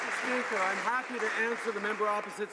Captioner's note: some Applause